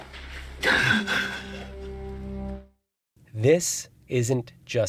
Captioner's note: Brienne crying